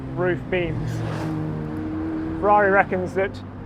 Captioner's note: car engine revving